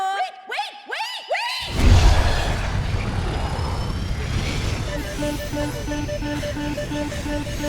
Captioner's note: alarm blaring